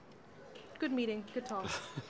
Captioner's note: chuckles